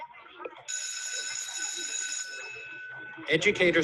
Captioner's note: school bell rings